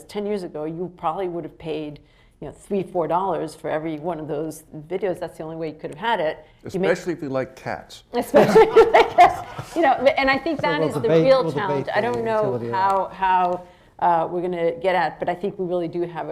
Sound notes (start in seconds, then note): 8.3 laughs